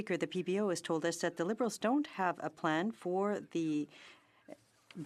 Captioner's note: speaking French